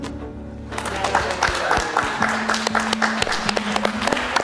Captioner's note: crowd clapping